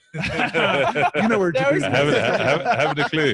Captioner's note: all laughing